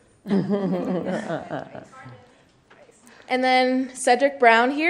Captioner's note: laughing